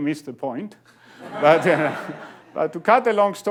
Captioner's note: laughing